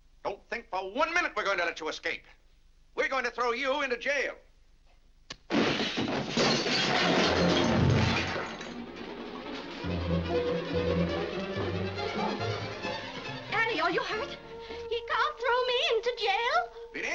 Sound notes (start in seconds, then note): 5.5 crashing & shattering; 8.6 intense dramatic music